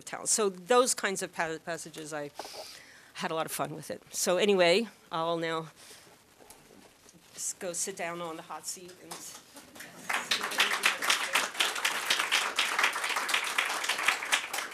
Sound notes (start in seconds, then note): 9.6 applause